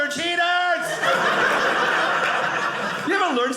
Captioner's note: audience laughing